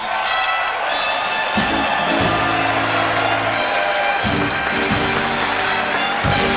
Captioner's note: audience cheering; uptempo dramatic music; audience applauding